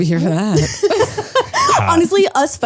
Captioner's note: laugh